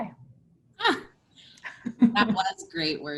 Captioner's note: laughter